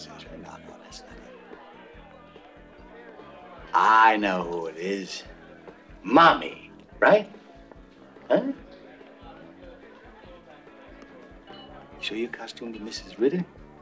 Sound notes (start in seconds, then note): none